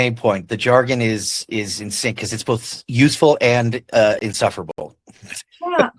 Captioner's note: chuckles